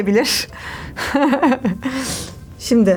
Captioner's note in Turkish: Gülüşmeler